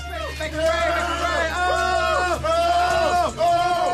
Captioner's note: men shouting hysterically